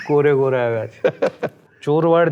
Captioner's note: laughs